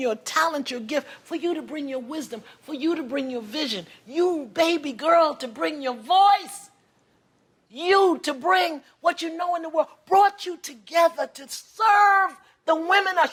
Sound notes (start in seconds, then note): none